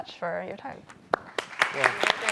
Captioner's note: applause